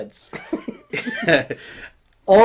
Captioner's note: laughing